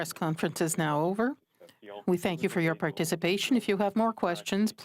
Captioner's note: speaking French